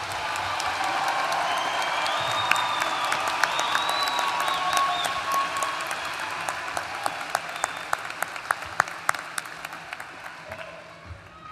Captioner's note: applause